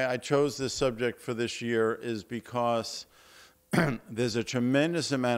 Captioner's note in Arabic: تطهير الحلق